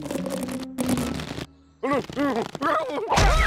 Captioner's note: nervous stammering